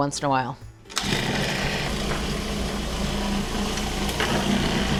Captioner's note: food processor whirs